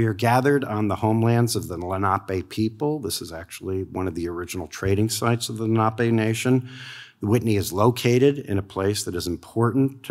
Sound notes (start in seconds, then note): none